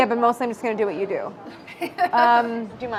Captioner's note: laughs; laughs